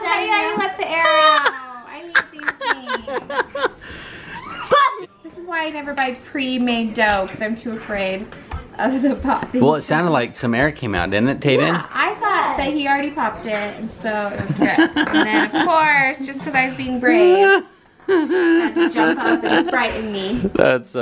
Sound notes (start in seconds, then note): 0.0 laughter; 0.0 screams; 2.8 laughing; 5.3 yells; 16.5 laughing